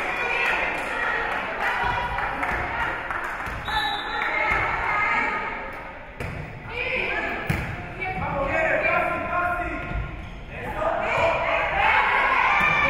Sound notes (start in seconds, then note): 0.0 spectators cheering and applauding; 0.2 spectators shouting encouragements; 3.6 whistle being blown; 6.8 spectators shouting encouragements